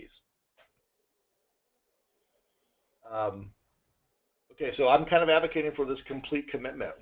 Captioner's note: pause